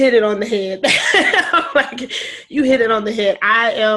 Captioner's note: laughing